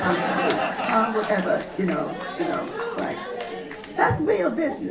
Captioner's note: laughter